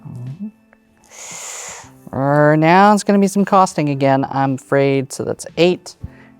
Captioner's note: inhales